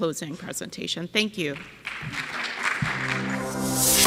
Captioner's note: audience clapping; bright music